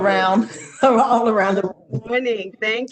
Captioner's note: laughter